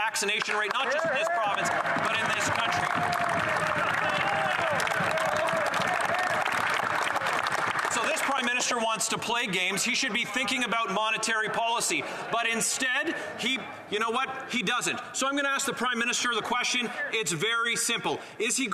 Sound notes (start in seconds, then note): 8.4 cheering and Applause